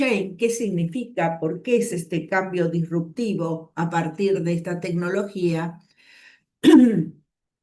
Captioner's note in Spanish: carraspeo